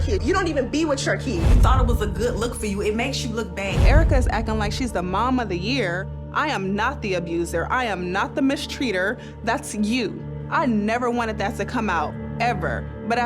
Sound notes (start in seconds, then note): 1.4 transition whooshes; 3.9 transition whooshes; 9.9 tense droning music